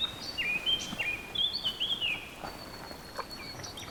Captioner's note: none